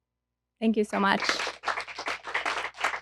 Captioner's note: applause